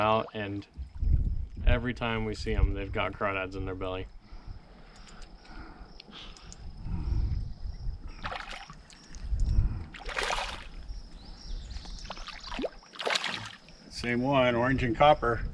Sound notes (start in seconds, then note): 4.8 crickets chirping; 8.9 fish splashing